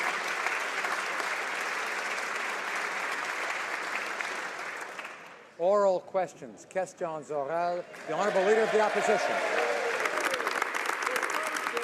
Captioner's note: applause